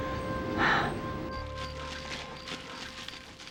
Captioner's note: sighs; rustling